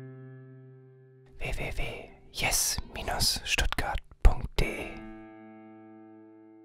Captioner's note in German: Stimme flüstert